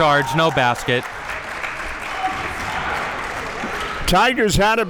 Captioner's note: audience clapping